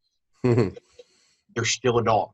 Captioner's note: laughs